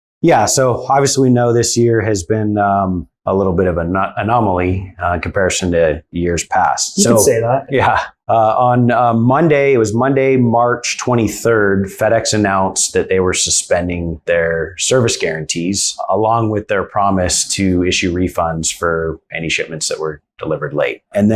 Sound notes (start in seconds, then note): 7.0 chuckles